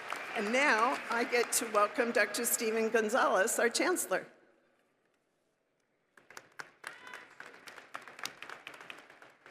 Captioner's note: applause